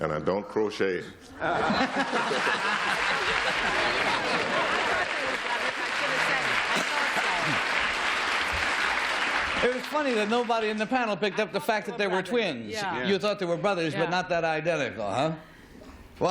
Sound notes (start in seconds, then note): 1.3 laughter; 4.2 applause